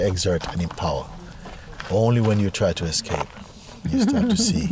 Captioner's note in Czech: Smích